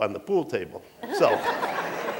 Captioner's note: laughter